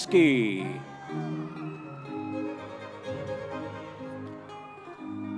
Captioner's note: audience members cheering